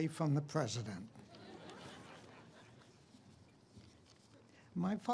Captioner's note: audience laughs